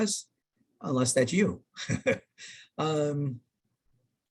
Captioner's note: chuckles